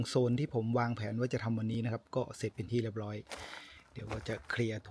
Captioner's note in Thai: เสียงสูดหายใจ